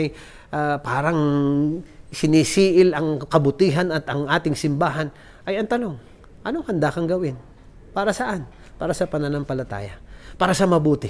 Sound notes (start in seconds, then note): none